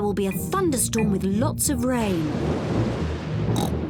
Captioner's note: thunder rumbles; oinks